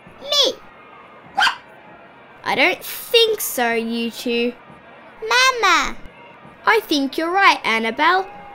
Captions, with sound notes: Me! (Taffy barks) I don't think so you two... Mama! I think you're right Annabelle